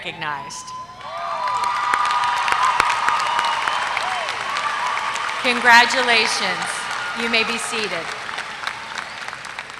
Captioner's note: applause